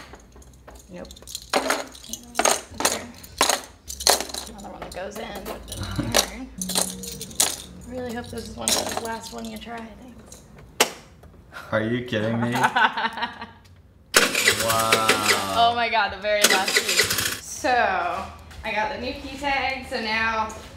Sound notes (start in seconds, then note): 0.0 keys dropping; 6.5 keys dropping; 12.6 laughs; 14.1 scooter engine starts